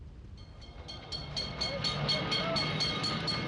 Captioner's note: bell ringing